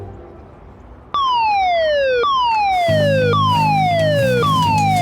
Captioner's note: gentle ambient music; siren blaring